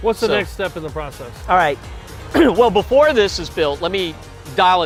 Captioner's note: clears throat